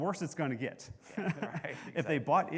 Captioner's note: both laughing